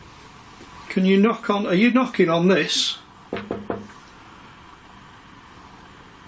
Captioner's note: knocks